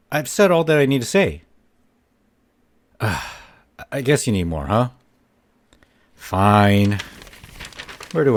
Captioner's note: sigh